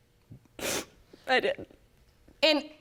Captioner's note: sniffling